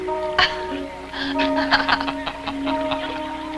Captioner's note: laughing